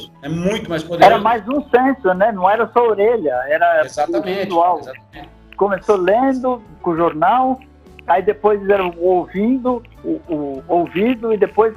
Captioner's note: radio